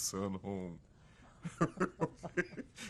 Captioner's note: laughter